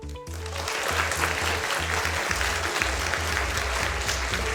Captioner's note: applause